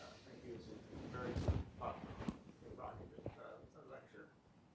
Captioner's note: speaks off- mic